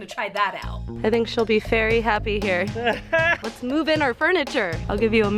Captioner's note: laughs